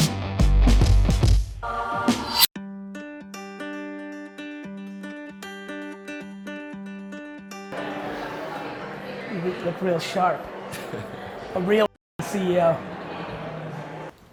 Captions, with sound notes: (bright acoustic music) You need to look real sharp. (laughs) A real CEO.